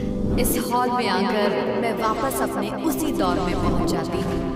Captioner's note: echoing